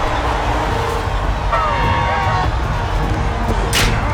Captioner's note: groaning